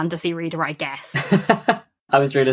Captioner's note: laughs